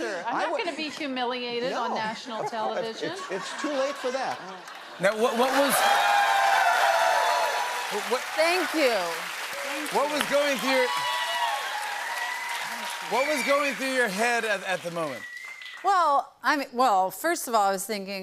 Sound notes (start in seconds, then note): 5.8 cheers and applause; 11.0 cheers and applause continue